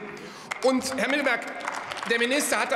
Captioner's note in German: Beifall bei der FDP und dem BÜNDNIS 90/DIE GRÜNEN sowie bei Abgeordneten der SPD